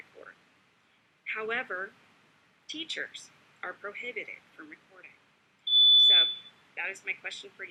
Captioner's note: timer beeps